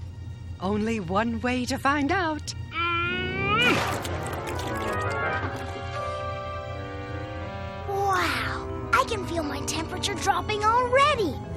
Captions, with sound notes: - ONLY ONE WAY TO FIND OUT. [grunting] - WOW! I CAN FEEL MY TEMPERATURE DROPPING ALREADY.